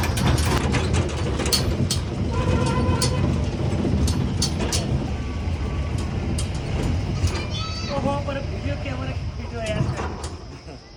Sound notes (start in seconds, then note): 2.3 horn sound